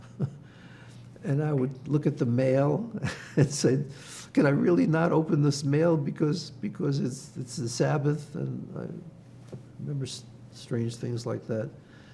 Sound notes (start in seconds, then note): 2.7 laughing